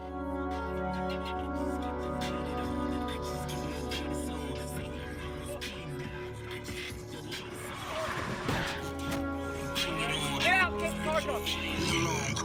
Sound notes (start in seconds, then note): 2.6 music playing on radio; 8.5 loud crash